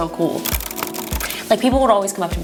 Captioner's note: keyboard clicking